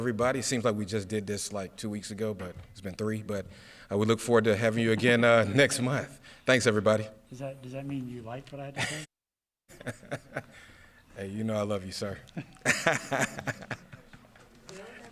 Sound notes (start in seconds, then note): 7.0 laughs; 12.3 laughs; 12.3 laughs again; 14.2 sound mutes